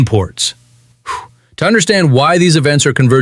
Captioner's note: exhales sharply